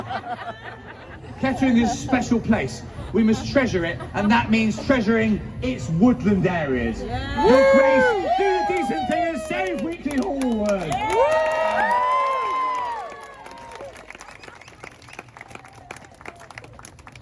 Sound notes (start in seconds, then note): 11.1 crowd cheers and whoops